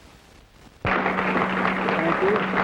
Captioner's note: applause